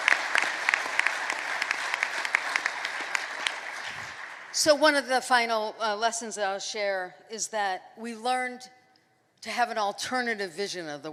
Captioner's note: applause